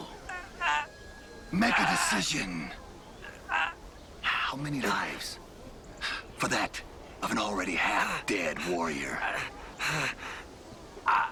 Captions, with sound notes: - (grunting) - Make a decision. How many lives for that of an already half-dead warrior?